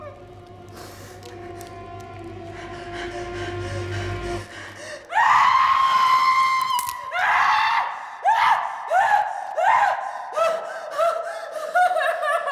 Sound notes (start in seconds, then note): 5.1 screaming